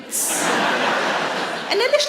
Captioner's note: audience laughs